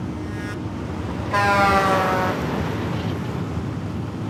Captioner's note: truck horn blaring